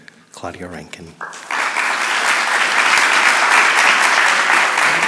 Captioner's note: audience applauding